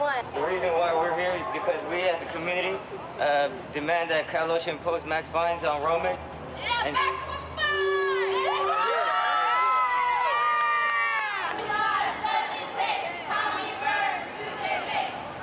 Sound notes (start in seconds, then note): 8.2 all cheering; 11.2 chanting